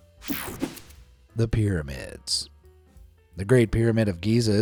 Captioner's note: air fizzing